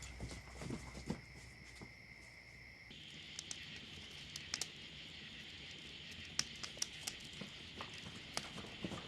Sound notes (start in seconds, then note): 2.8 fire crackling